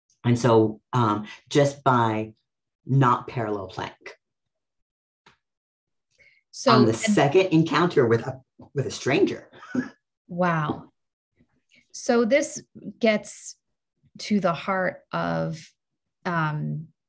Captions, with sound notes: - And so just by not parallel playing. On the second encounter with a stranger. (laughs) - Wow. So this gets to the heart of the way that autistic sociality